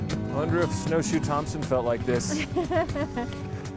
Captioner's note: laughing